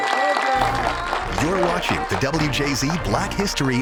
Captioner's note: audience applauding and cheering